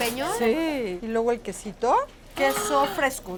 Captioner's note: speaking Spanish